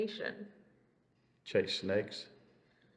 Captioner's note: laughs